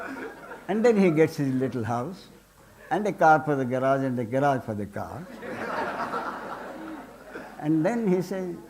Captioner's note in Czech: smích